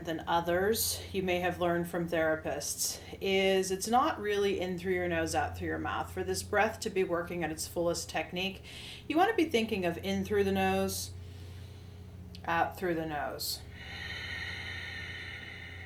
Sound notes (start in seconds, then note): 11.2 inhales; 13.7 exhales